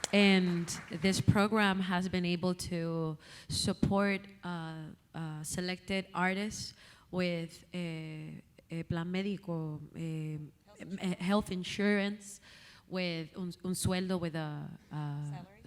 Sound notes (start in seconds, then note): 7.0 speaking Spanish; 13.3 speaking Spanish